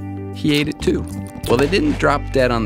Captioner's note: more chewing